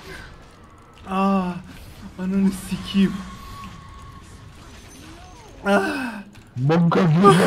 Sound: barely breathing

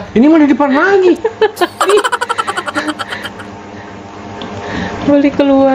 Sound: laughter

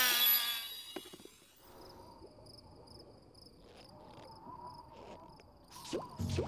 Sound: wind blowing, crickets chirping; popping

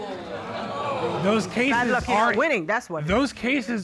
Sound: audience gasps

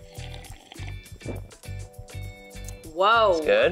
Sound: slurping lightly

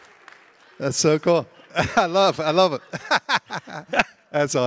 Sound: laughs

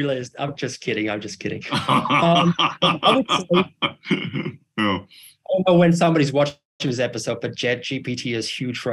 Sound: laugh

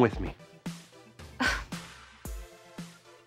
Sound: gasping

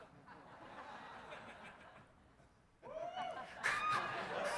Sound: audience laughs; cheering

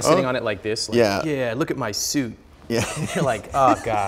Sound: laughing

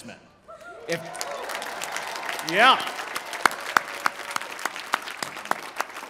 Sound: applause

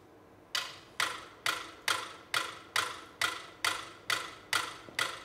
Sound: metronome ticking

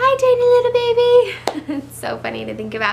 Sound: laughs

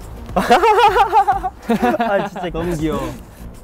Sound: haha

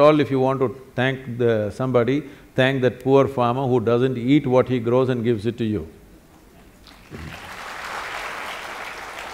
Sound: applause

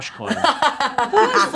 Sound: laughs

